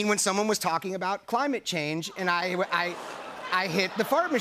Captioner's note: audience "Ohs"